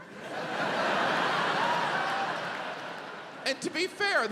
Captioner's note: audience laughs